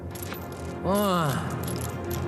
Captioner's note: rattling